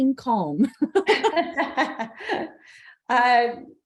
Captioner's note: laugh